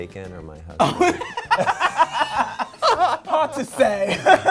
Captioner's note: both laughing